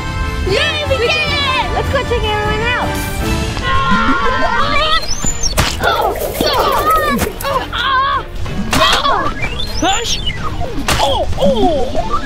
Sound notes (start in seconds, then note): 5.8 all grunting; 5.8 synth scales